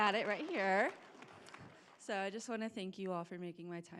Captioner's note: applause